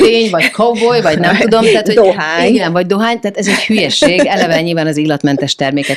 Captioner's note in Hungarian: nevetés; nevetés